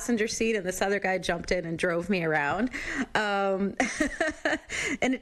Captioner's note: chuckles